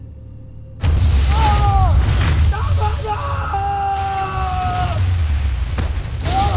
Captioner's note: guttural cry of pain; evil energy whoosh & crackle; thuds